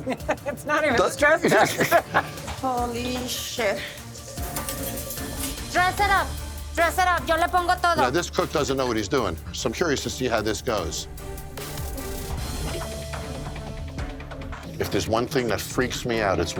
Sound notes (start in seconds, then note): 1.2 woman laughing; 7.8 speaking Spanish; 11.5 serious instrumental music